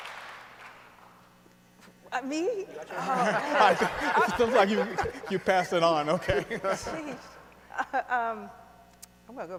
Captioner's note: applause